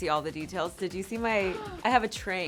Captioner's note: gasps